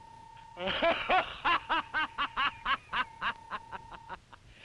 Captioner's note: Krupp laughing